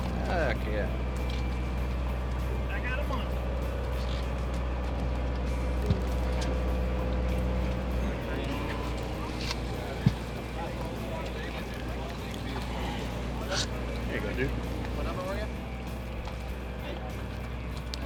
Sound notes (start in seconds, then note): 6.7 crew chatting